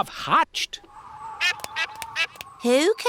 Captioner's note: all quacking